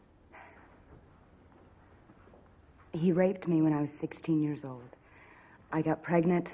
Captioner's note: sighs